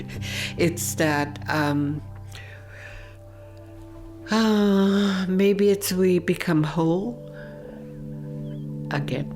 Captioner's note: laughs